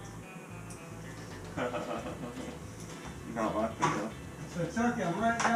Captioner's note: sarcastic laugh